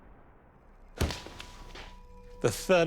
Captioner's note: carcass thuds